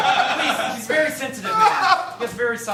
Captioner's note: crying; sobbing